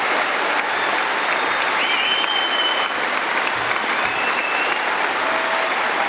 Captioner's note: applause